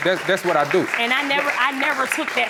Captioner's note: applauding